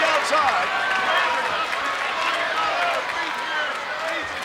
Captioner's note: crowd clapping